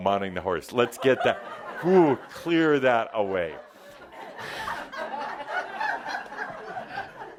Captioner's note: laughter